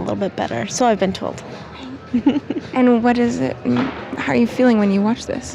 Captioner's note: laughs